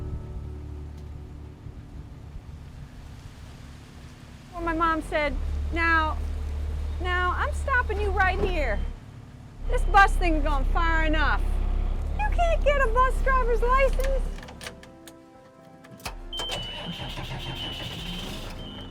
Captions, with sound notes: [leaves rustling] - Well, my mom said, "Now, now I'm stopping you right here. This bus thing has gone far enough. You can't get a bus driver's license." [engine starts]